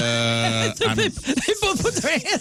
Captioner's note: laughing